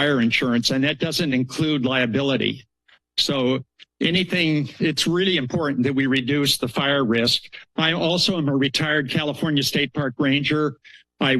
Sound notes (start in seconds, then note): none